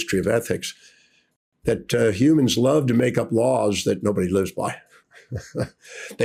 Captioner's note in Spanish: risas